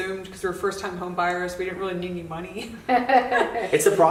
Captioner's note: laughs